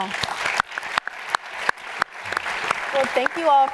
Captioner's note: applause